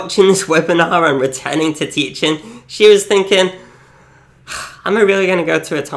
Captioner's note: sighs